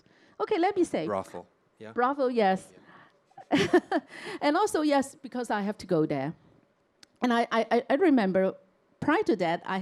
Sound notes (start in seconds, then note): 3.4 chuckles